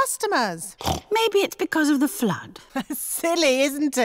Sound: snorts; laughs

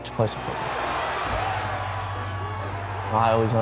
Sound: cheering

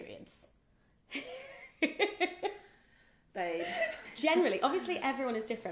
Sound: laughs

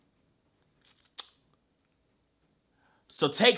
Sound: sucking teeth

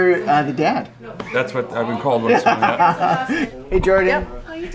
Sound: laughs

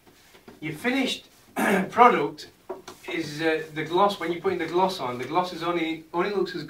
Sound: cough cough

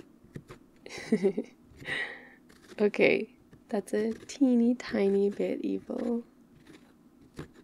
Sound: laughs

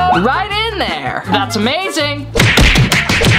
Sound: claps

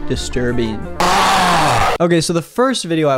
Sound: screaming

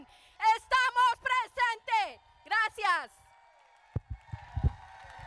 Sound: speaking in foreign language; crowd applauding

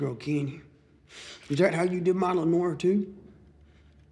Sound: inhales

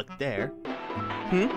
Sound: phone ringing

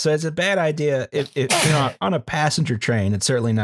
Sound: sneezes

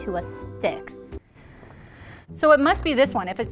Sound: deep breathing

